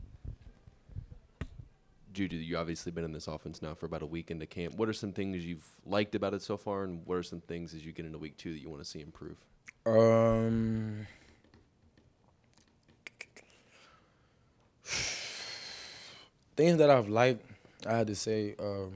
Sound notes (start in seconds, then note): 12.5 clicks tongue; 14.8 sighs heavily